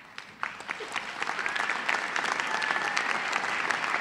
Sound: applause

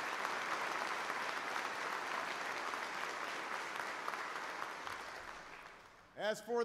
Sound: applause

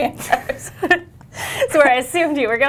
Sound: laughing

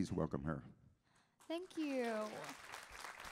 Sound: audience applauding

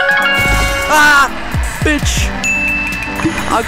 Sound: ding

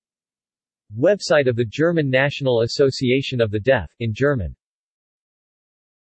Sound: in German; in German

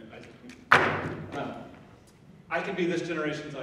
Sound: object bangs

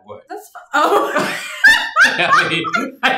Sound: laughing

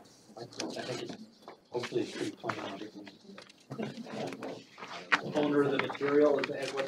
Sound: indistinct chatter

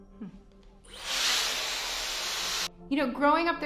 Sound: air blowing loudly

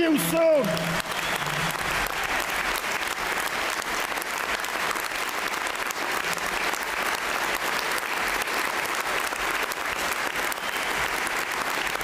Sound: applause

